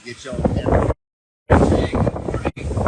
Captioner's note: wind rustling